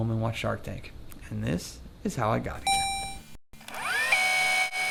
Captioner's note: robotic ding; tape rewinding